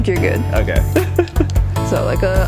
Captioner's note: laughs